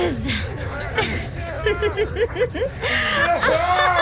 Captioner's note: crazy Laughter